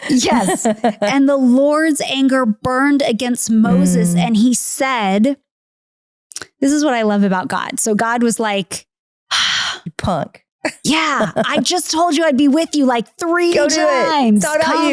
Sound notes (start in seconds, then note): 8.9 sighing